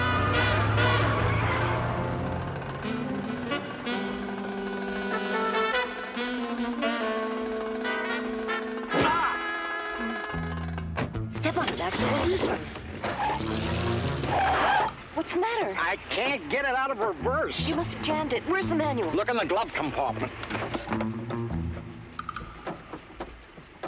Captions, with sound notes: (tires squeal) (tense music) (yells) - Step on it, Maxwell, we'll lose them. What's the matter? - I can't get it out of reverse. - You must've jammed it. Where's the manual? - Look in the glove compartment. (tense music)